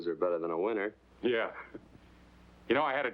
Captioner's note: chuckles